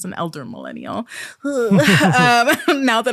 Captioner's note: squirms, and laughs